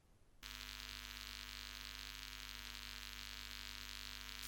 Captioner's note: electric buzzing